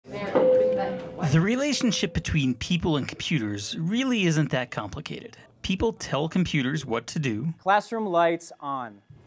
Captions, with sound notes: (bell rings) The relationship between people and computers really isn’t that complicated. People tell computers what to do. Classroom lights on.